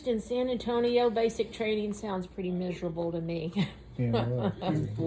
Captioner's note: laughs